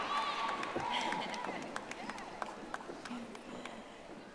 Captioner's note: audience applauding